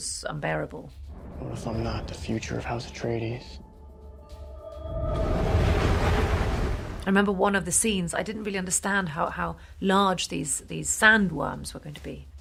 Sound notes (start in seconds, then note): 4.1 whirling wind